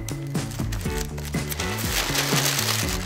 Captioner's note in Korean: 테입 붙이는 소리; 바스락 소리